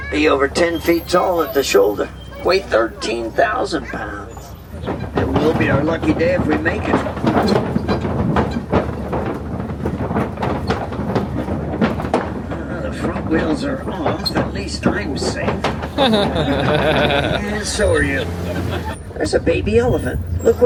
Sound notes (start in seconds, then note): 7.6 vehicle rattling; 15.8 laughing